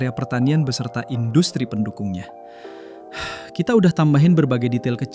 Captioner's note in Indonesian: menghela napas